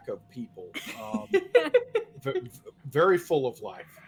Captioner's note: laughs